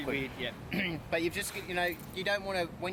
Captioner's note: clears throat